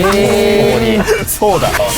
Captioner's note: laughs